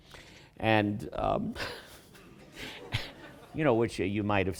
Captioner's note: laughs